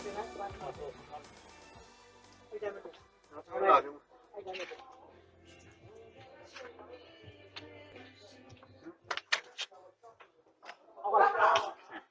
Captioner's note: indistinct chatter in Burmese and English; Ella barking